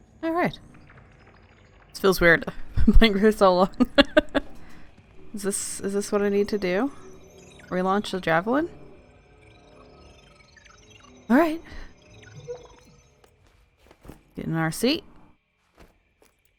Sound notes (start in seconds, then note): 3.6 laughs